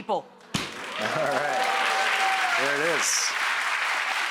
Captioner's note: audience cheering and clapping